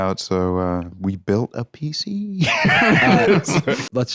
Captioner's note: laughs